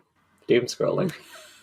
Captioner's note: laughs